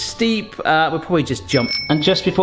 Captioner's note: bicycle bell ringing